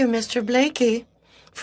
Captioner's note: speaking in French